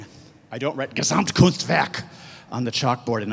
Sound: speaks in German

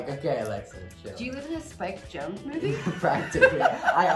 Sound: laughs loudly

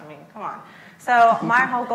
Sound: laughs

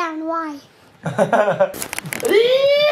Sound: laughs

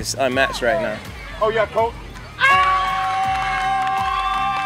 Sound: cheering

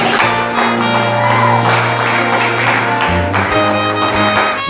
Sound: cheering And applause

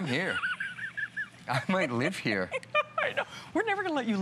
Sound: laughter

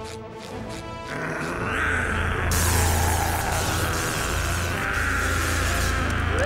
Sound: growling, buzzing

